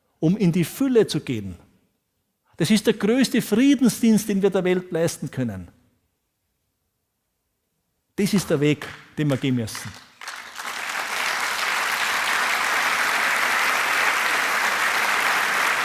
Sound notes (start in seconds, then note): 9.2 applause